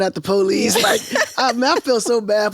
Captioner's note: laughs